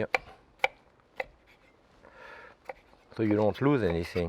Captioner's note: knife tapping